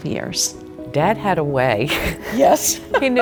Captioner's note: laughs